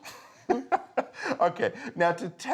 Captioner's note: both laughing